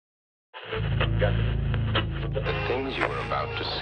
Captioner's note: television static crackling